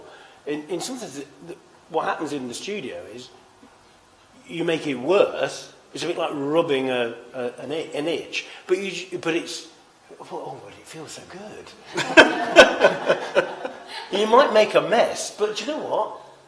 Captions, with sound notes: In some instances what happens in the studio is you make it worse. It’s a bit like robbing an itch but it’s "Oh, but it feels so good." [laughter] -You might make a mess but you know what